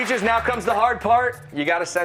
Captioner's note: applause